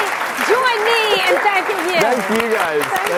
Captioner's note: audience applauds